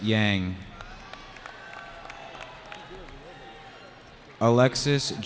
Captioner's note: cheering